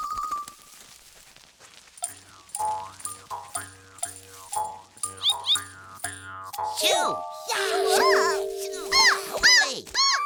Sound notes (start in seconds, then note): 5.1 squawking; 6.8 frightened squawks